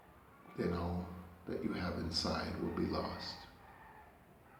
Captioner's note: roosters crowing